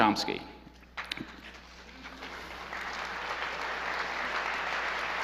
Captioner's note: audience applauds